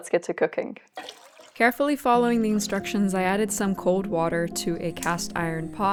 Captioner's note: water pouring